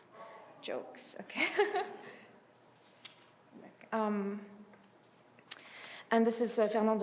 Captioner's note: chuckles